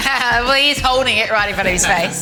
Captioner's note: laughing